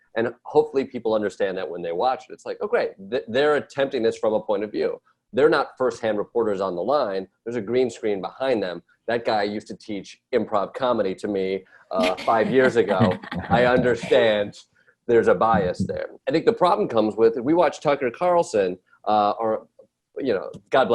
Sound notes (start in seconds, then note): 12.0 Roy, Desi & Ronny laugh